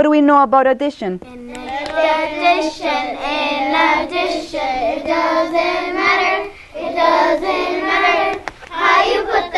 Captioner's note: singsong